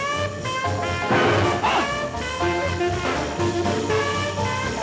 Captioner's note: grunting; frantic percussive jazz music